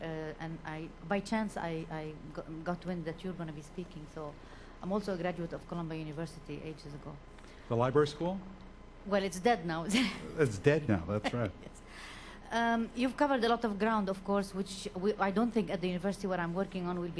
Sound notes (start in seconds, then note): 10.0 laughs